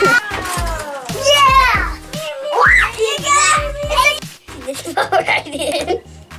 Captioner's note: laughing; kids yelling